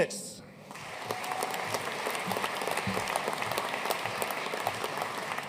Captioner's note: audience cheering and applauding